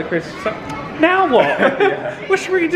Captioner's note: they laugh